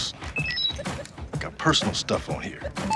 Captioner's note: phone beeps